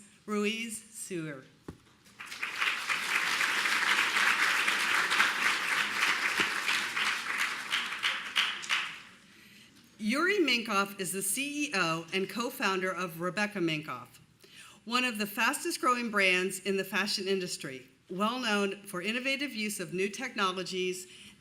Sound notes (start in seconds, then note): 6.0 applause